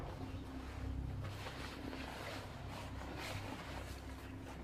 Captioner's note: cover rustling